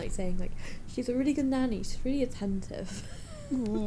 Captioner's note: wheezes